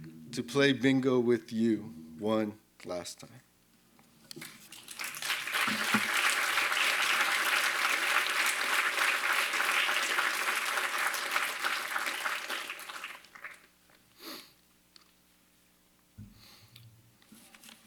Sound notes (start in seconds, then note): 4.7 applause